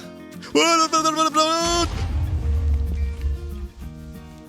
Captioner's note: sizzle; panicked sputtering; explosion